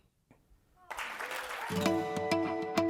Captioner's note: applause